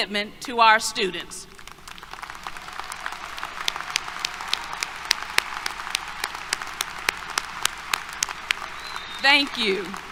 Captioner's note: applause